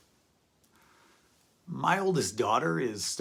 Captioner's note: pause